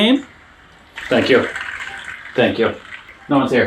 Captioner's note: crowd applauding